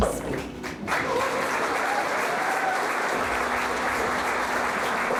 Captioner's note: audience applauding